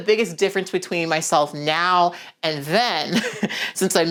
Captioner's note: laughs